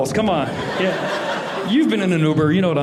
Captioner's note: audience laughing